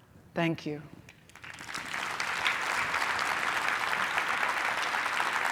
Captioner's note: applause